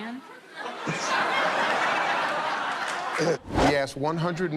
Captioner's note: laughter